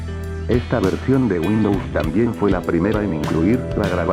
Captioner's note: voice in compressed quality audio